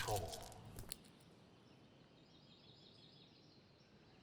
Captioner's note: stones clack